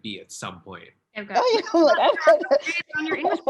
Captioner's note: all laughing